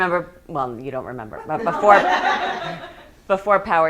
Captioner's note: students laughing